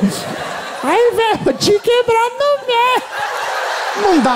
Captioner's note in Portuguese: voz fina